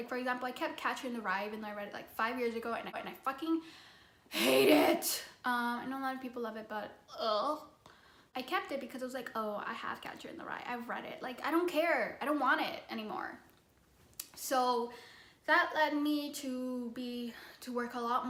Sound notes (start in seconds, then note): 4.4 gagging noise